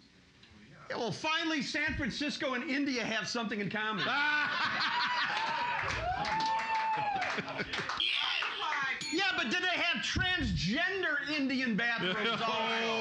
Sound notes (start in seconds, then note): 3.9 loudly laughing; 4.8 cheers and applause; 9.0 bell softly chimes; 9.3 yes button echoes